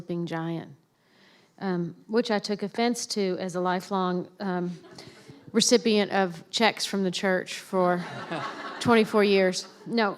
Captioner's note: laughter